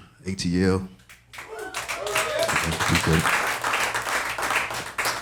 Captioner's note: audience applauding